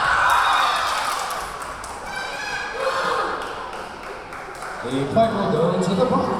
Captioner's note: cheering; whistle blowing